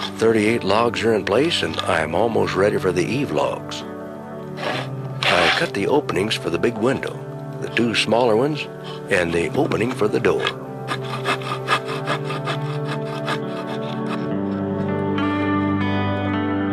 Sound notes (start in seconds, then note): 11.7 tool rasping; 13.7 relaxing music